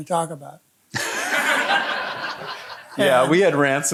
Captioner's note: audience laughing